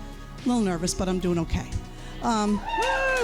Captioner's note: crowd cheers